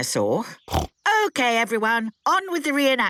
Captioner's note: snorts